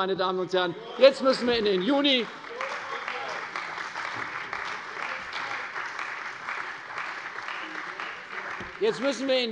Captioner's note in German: Beifall bei der CDU und dem BÜNDNIS 90/DIE GRÜNEN